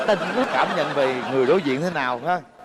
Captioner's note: laughing